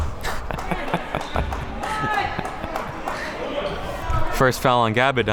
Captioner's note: chuckles